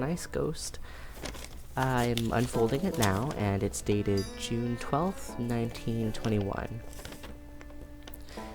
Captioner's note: paper rustling